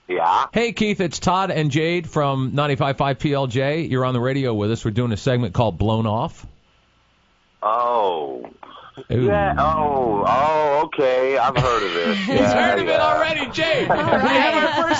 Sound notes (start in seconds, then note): 6.4 awkward pause; 11.3 laughs